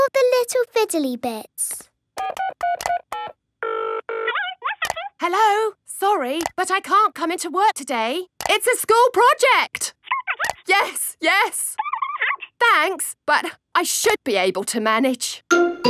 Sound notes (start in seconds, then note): 2.2 dials phone; 4.2 on phone